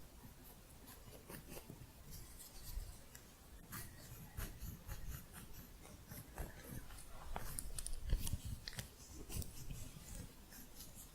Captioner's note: louder scissors sounds